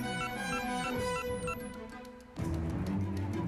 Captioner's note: beeps